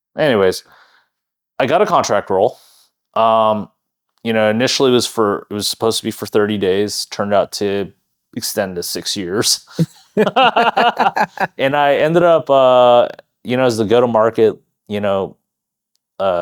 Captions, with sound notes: Anyways, I got a contract role. Initially it was supposed to be for 30 days, turned out to extend to six years. (both laughing) And I ended up, as the go-to market,